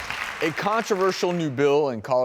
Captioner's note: audience claps